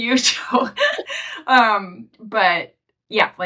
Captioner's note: laughing